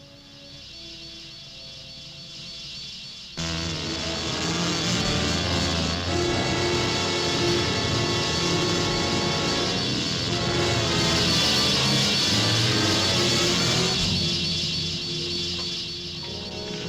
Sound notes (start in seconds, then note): 3.4 menacing orchestral music; 3.4 wasps buzzing